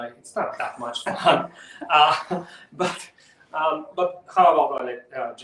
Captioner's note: both chuckles